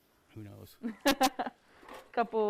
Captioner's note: laughs